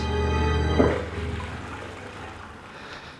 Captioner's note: toilet flushes